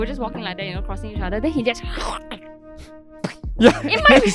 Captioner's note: gathers phlegm and spit